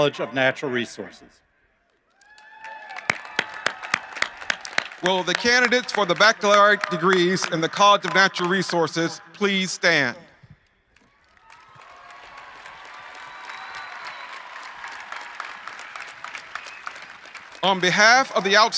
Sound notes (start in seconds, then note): 7.2 applause; 17.6 cheering and applause